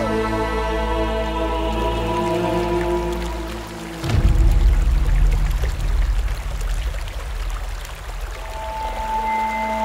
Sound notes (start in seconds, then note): 1.1 water gurgling; 8.0 suspenseful music playing